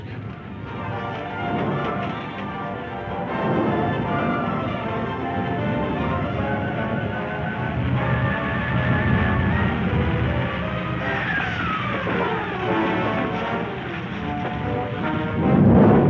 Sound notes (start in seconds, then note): 0.4 exciting orchestra music; 7.0 crashing; 7.0 fire roaring